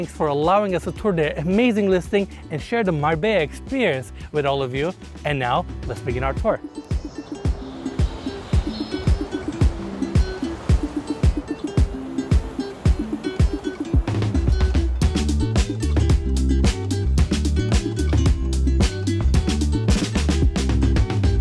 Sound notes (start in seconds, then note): 5.8 birds chirping; 7.0 gentle music